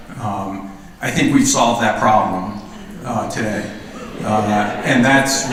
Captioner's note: laughter